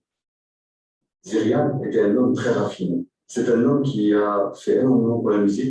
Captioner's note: non-english speech